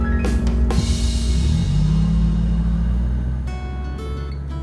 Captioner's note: car engine rumbling; light music